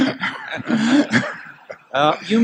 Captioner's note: laughter